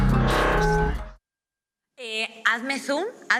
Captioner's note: metallic sound